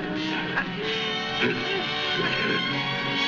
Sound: grunting

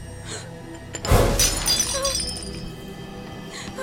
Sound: cup breaks

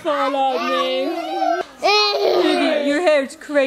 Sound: children exclaiming

